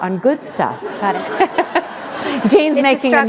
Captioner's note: chuckle